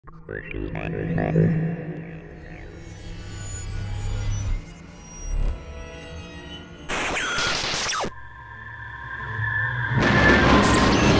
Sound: sci-fi sounds

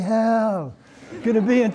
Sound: laughter

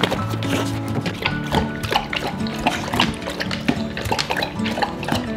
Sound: water slurps

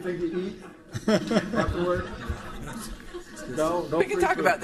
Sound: laughing

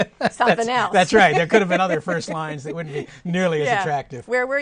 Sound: laughter

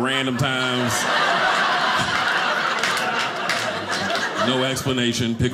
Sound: audience laughing

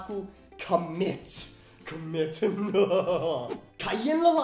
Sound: evil laugh

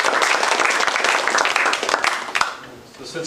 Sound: applause

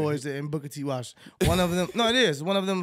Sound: laughing

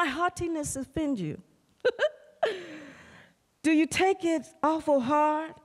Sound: laughter

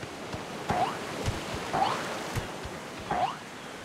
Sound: jump sound

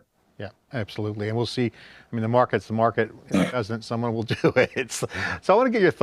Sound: chuckling

